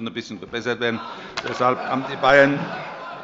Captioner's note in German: Heiterkeit